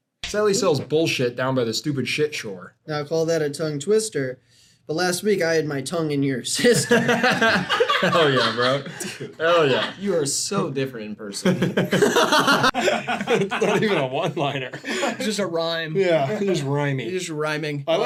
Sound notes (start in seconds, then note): 6.6 all laughing; 11.5 laughing; 11.5 laughs